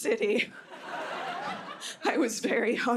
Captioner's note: laughter